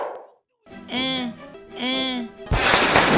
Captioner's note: grunts indifferently